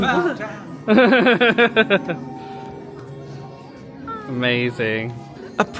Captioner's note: laughing